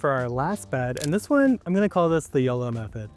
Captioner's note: button clicking